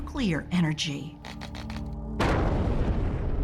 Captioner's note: explosion roars